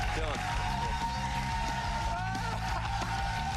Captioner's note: cheers and applause